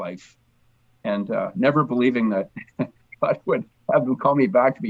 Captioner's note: chuckles